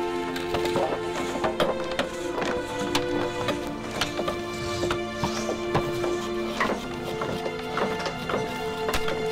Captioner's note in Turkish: Çekiç sesleri